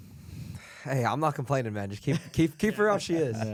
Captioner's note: laughs